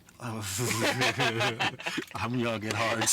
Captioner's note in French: Rires